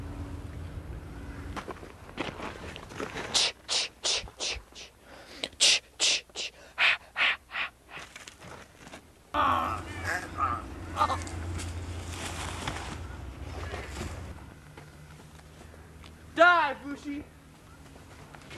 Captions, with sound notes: (tch tch tch tch) (tch tch tch ha ha ha) (guttural scream) DIE VOOSHIE!